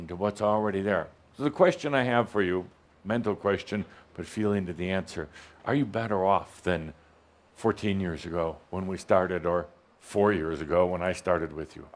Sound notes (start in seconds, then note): none